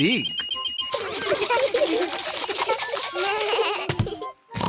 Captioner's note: all laugh; oinks